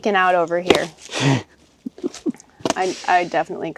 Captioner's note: chuckling